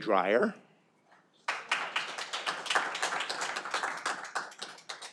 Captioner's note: audience applauding